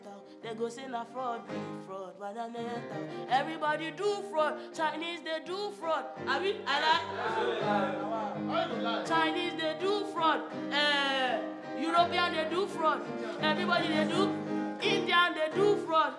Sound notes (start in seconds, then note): 5.9 speaking in native language